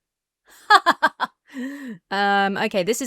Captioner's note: laughs stiffly